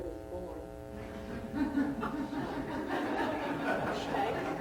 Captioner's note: laughter